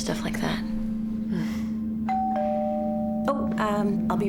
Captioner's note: doorbell rings